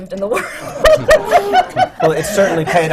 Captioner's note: laughs